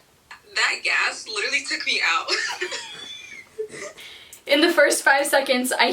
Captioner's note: wheezes